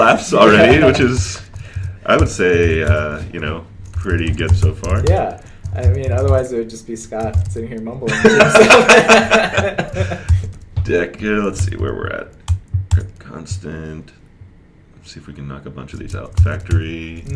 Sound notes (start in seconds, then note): 8.0 laughter